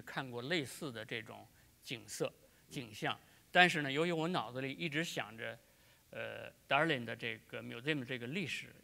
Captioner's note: speaking in Chinese